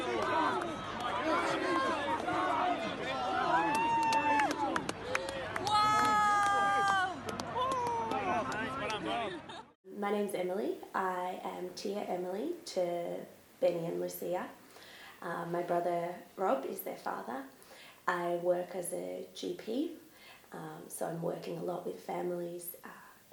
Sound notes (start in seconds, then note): 0.0 people clapping and shouting; 4.1 people cheering; 9.2 speaks faintly